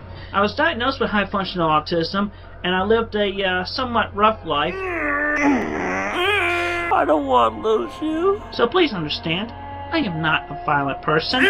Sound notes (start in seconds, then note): 4.6 grunts and moans